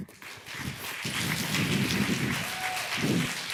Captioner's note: applause